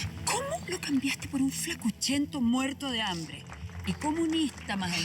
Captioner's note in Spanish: suspiros